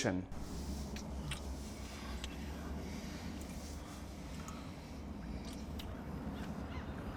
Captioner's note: couple breathes heavily; kisses clicking; distant bird calls